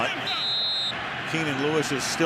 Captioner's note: whistles